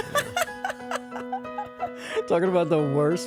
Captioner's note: laughing